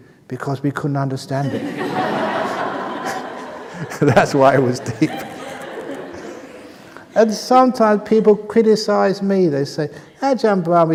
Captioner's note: laughter